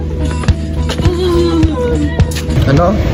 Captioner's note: laughing